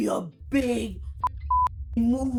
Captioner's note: beep